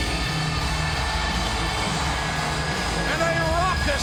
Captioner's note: audience cheering